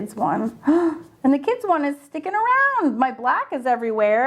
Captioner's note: gasps